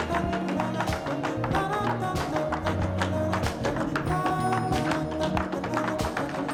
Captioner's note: light jazz music; rhythmic tapping